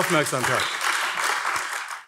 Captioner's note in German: Beifall AfD